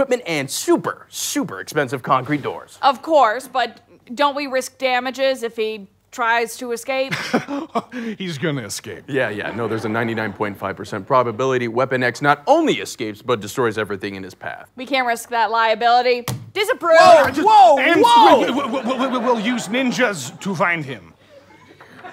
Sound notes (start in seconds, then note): 7.2 laughing